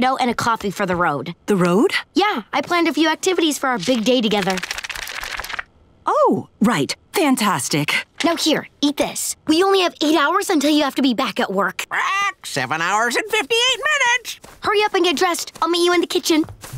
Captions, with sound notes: - and a coffee for the road. - The road? Yeah, I planned a few activities for our big day together. Oh, right, fantastic. Now, here, eat this. We only have eight hours until you have to be back at work. [squawking] Seven hours and 58 minutes. Hurry up and get dressed. I'll meet you in the kitchen.